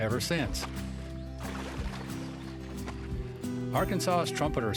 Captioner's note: water splashing